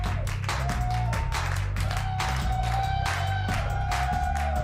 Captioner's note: audience cheers